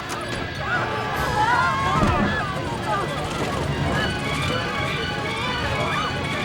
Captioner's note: people screaming; dramatic music